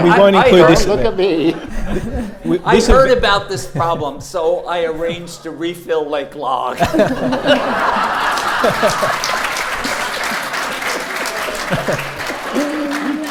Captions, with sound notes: - We won't include this. - Don't look at me! - I've heard about this problem. So I arranged a refill Lake Lag. (audience laughs) (audience claps)